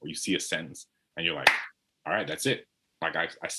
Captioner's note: clap